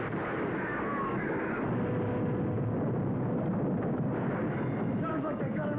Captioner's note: explosion roaring; screaming